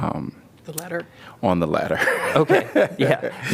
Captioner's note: laughter